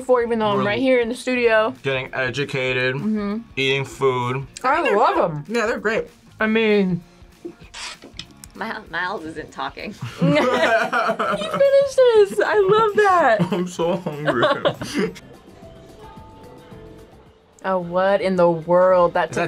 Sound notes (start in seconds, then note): 10.0 both laugh; 14.9 laughs